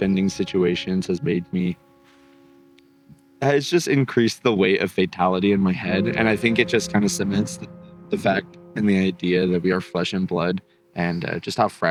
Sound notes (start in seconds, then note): none